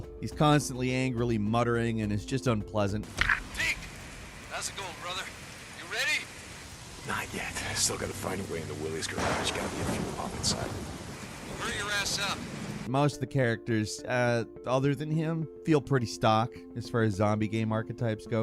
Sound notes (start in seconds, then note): 3.3 person On Radio; 11.4 person On Radio